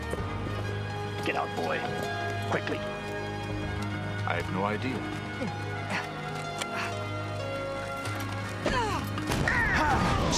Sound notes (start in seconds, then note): 6.6 grunts; 9.3 explosion